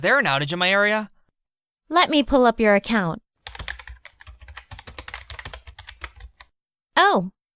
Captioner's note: sounds of typing